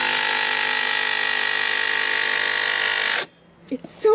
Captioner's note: saw whirring